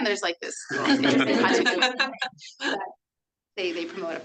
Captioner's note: everyone laughs